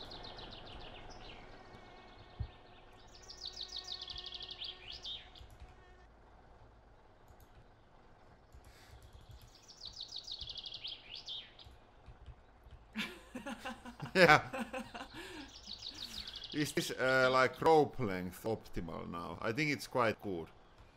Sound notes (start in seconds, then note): 8.6 clicking mouse